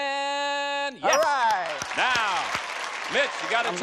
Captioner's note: applause